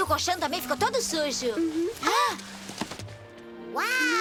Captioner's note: gasps